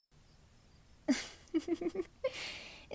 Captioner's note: giggles